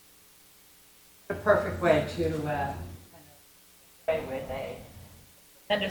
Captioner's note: speaking faintly